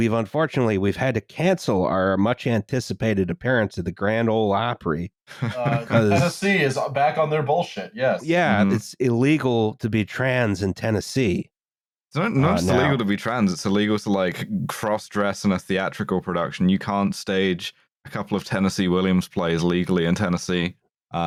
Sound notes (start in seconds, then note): 5.3 laughter